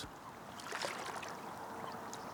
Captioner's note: splashing